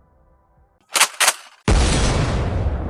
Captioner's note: loads shotgun